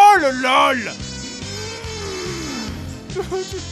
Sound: rage scream

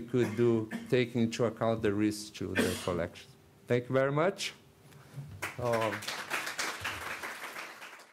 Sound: applause

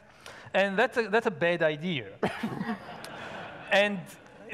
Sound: audience laughing

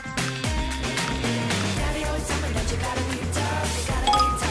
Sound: stir

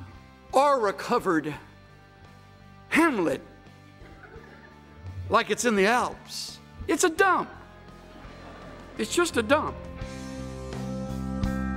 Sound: laughter

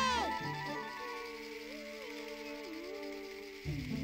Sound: humming melody

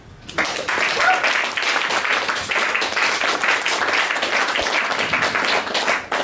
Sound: applause

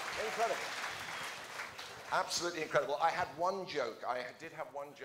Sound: applause

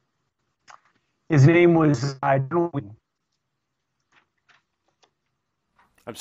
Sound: audio corruption

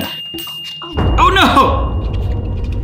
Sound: bell dings

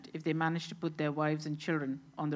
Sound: none

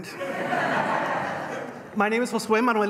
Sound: laughter

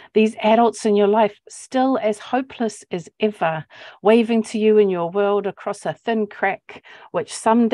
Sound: none

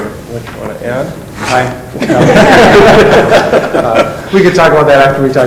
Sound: laughing

